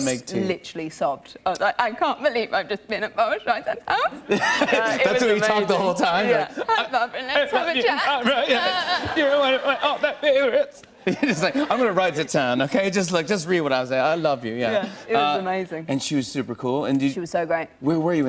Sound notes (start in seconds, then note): 4.2 laughter; 6.1 stuttering